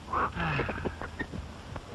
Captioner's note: sighs